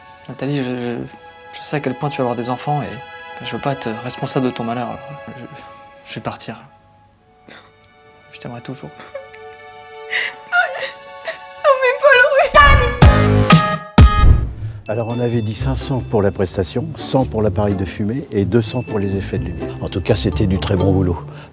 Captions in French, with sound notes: - Nathalie... Je sais à quel point tu veux avoir des enfants et je veux pas être responsable de ton malheur - Je...je vais partir je t'aimerai toujours *pleure*- Nan mais Paul reviens... - Alors on avait dit 500 pour la prestation 100 pour l'appareil de fumée et 200 pour les effets de lumière... En tout cas c'était du très bon boulot